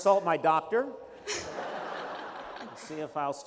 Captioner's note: laughter